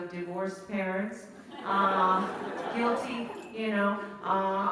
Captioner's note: laughter